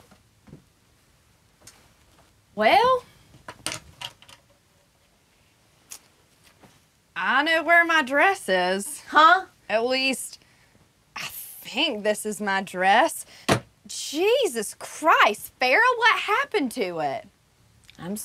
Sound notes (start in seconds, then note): 3.5 cabinet door clicking